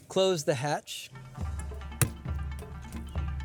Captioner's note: door thuds